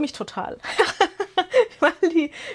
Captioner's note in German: gelächter